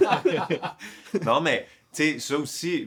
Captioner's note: laughs